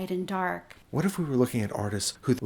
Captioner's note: voiceover